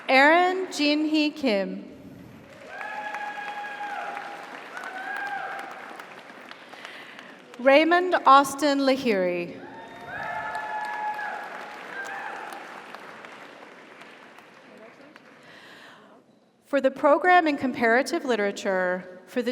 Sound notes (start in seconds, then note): 2.2 audience applauds; 2.5 audience cheers; 9.6 audience cheers; 9.7 audience applauds